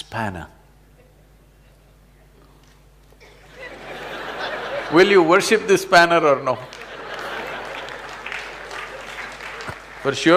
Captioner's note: laughter/Applause; 笑聲/掌聲